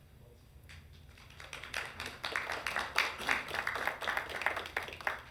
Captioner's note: council members clapping